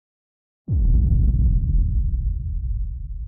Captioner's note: rumbling